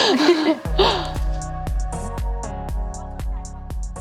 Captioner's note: laughter